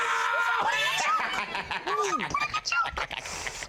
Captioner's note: laughter